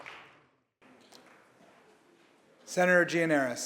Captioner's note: applause